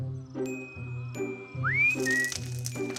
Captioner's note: whistles; objects clattering